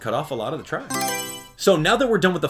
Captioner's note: Mario Selection Sound